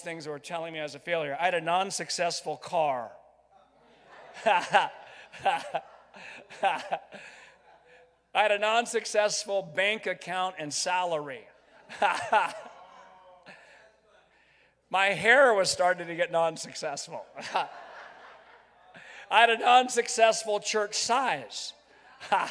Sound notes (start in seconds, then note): 3.8 crowd laughs; 4.2 laughs; 11.6 crowd laughs; 11.8 laughs; 17.3 crowd laughs; 17.4 laughs